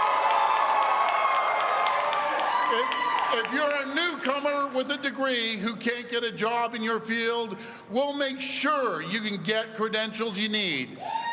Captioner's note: cheers and applause